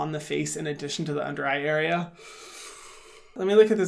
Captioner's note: inhales